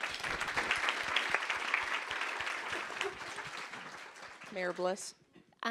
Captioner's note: applause